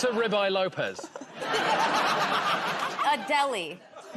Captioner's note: laughter